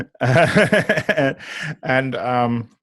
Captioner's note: laughs